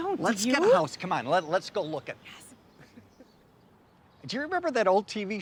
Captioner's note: John chuckles